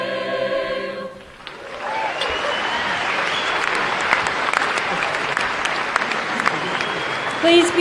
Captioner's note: applause and cheering